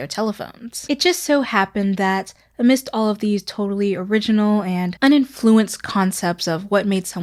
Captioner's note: sarcasm